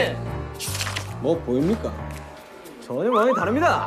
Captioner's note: mysterious footstep